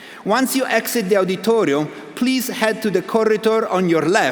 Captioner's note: none